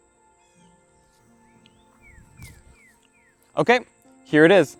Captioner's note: birds tweet